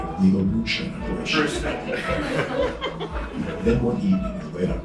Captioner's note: laughter